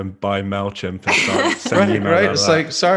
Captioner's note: laughs